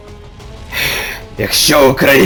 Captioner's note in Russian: выдох